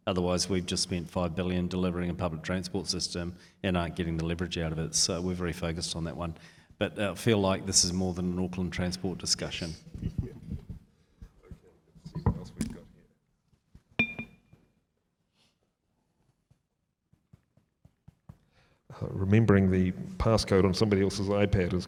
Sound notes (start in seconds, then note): 14.2 microphone taps